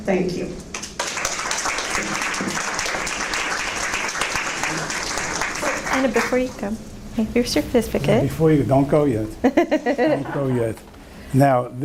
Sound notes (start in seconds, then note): 0.7 audience clapping; 9.4 laughing